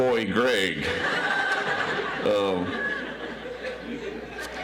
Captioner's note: audience laughs